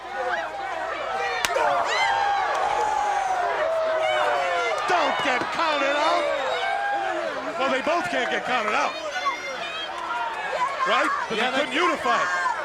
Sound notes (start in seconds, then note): 1.4 chop striking